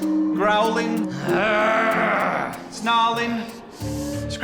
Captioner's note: growling